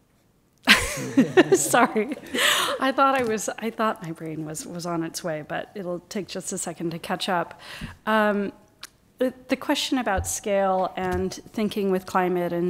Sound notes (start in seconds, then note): 0.7 laughs